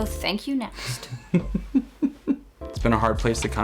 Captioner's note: laughs